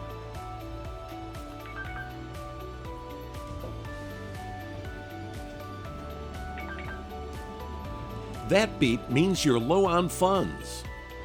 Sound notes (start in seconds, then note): 6.6 beep